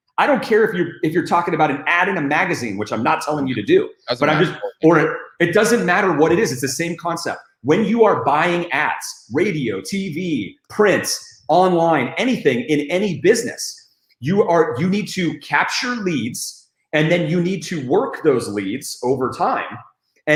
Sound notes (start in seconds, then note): 4.0 static